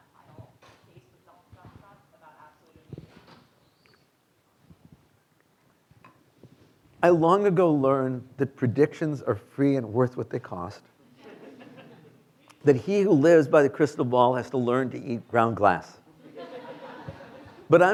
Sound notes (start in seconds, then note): 2.3 student faintly speaking; 11.1 students laughing; 16.1 students laughing